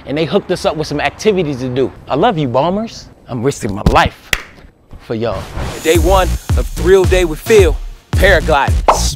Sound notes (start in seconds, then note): 4.3 claps